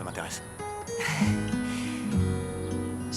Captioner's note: sighs